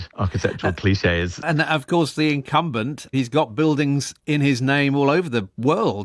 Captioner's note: chuckles